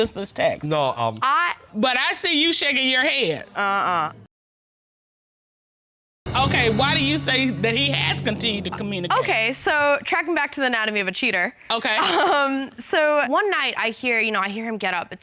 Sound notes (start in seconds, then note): 12.0 chuckles